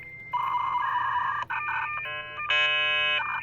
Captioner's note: beeping